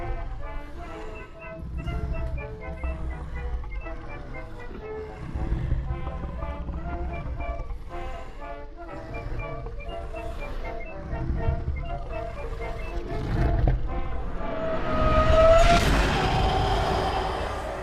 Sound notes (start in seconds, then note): 3.3 cheerful 1920's music; 4.0 monster rasping softly; 14.4 soft ominous music